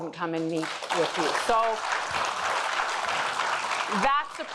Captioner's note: audience applauding